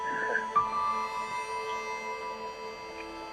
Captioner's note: chuckles